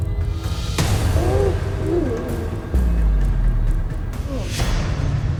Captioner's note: fighting grunts